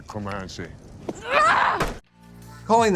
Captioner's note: yelling